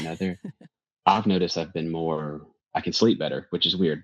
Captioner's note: laughs